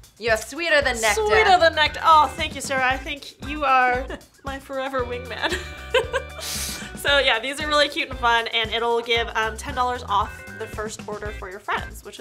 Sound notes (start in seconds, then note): 5.4 laughing